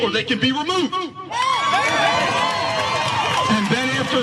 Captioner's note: applause